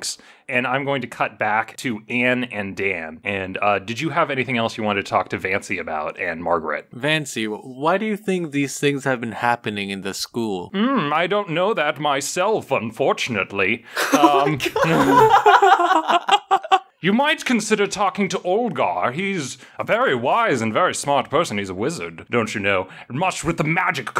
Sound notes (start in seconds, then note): 13.9 laughter